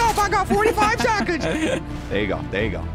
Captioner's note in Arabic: يضحك